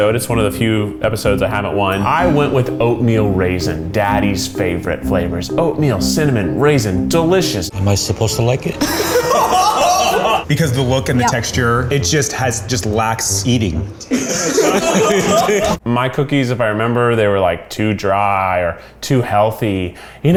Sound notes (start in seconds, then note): 8.8 group laughs; 14.1 group laughs